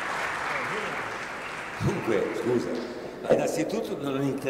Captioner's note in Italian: Applauso